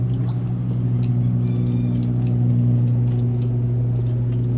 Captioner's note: bird call in distance